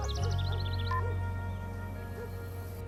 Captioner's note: phone beeps off, dog barks